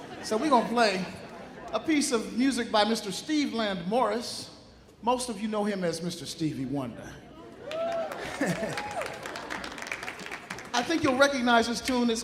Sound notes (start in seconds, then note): 0.0 audience laughing; 7.6 audience cheering; 8.2 chuckling